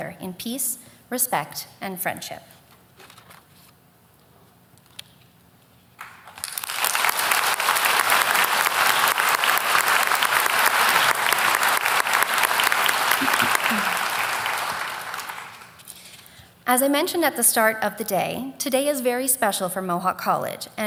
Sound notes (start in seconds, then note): 4.5 applause